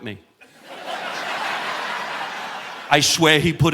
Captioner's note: audience laughing